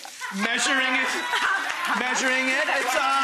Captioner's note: audience claps and cheers